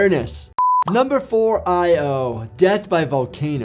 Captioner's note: beep